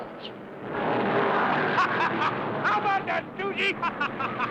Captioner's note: men laughing